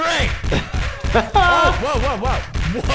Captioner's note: pounding; laughter